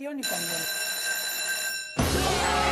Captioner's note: school bell